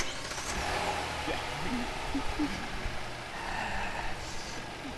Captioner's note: car engine roaring